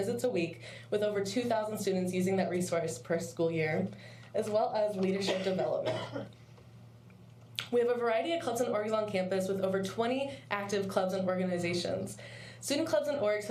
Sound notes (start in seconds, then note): 5.1 coughing